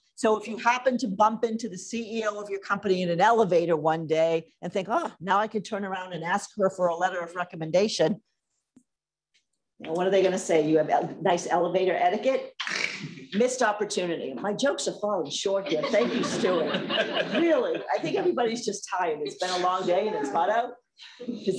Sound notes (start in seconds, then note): 15.6 laughter